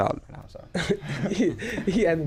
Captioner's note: laughing